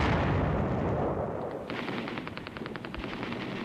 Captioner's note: voice On Radio; guns firing